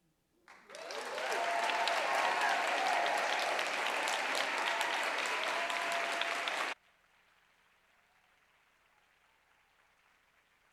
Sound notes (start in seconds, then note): 0.4 applause